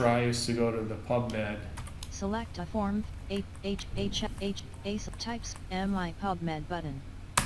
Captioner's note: sound of screenreader